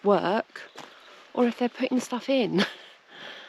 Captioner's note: giggle